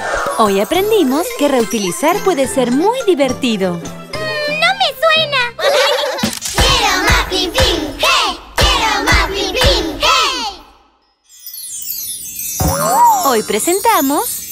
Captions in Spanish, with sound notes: ¡Hoy aprendimos que reutilizar puede ser muy divertido! Mh… No me suena… (Risas) Hoy presentamos...